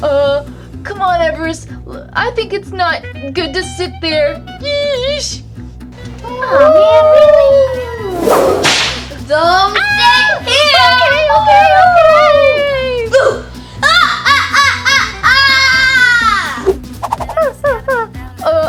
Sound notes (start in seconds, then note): 7.5 ghostly speaking; 9.8 Everest screaming; 13.8 maniacal laugher